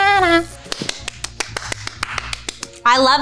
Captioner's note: playful music; clapping